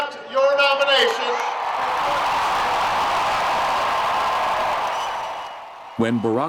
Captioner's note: crowd Cheers Ecstatically